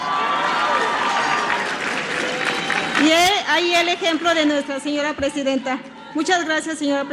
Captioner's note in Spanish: aplausos